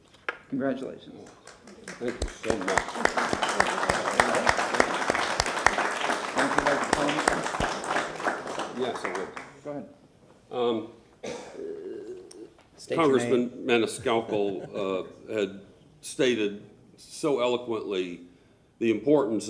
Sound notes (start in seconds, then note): 4.0 applause